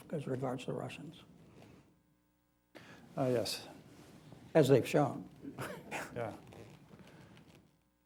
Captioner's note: laughter